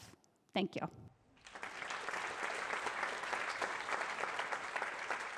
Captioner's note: applause